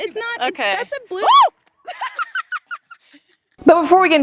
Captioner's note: screams